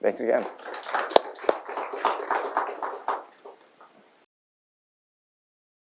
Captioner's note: applause